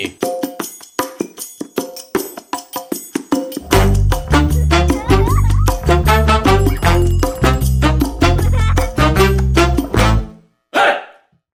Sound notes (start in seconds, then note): 0.2 jaunty music; 4.8 children laughing